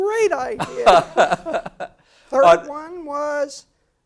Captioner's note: laugh